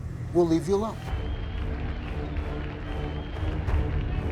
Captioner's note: crowd cheering, dark music